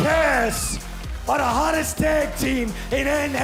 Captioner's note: crowd cheering